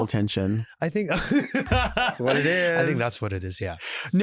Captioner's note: laughs